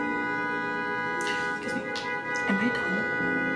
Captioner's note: whispering